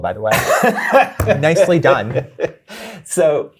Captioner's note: guy laughing